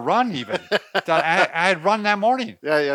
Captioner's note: laughs